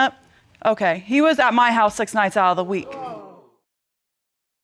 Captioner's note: audience exclaiming